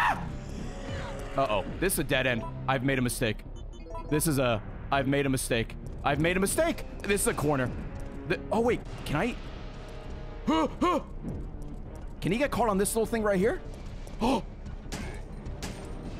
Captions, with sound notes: (screams) Uh oh, this is a dead end. I've made a mistake. This is a-- I've made a mistake, I've made a mistake. This is a corner. Oh wait, can I-- (stress noises) Can he get caught on this little thing right here? (gasps)